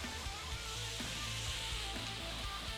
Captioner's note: pan sizzling